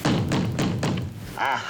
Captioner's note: banging